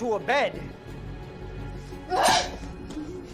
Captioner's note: grunts, slices; laughing